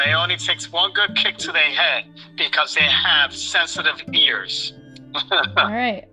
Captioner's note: laughter